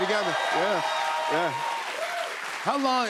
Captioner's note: cheers and applause